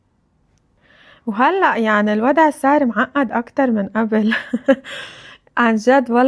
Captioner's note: laughs